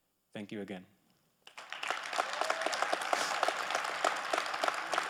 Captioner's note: audience applauding